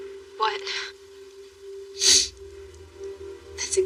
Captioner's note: sniffleles